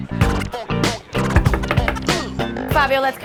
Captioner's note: knock on door